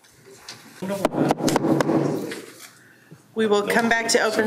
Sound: gavel pounds; gavel pounding

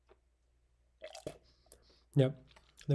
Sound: coffee flowing

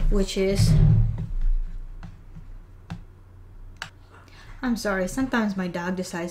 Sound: thud

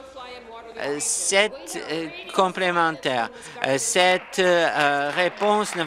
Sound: applause

